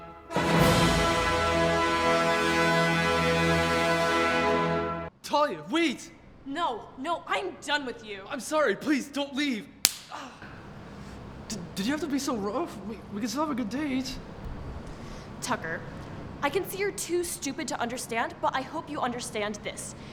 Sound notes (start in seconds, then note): 9.8 slap noise